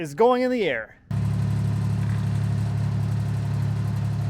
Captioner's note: motor humming